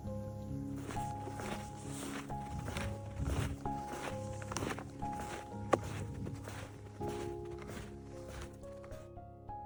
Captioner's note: snow crunching under snow shoes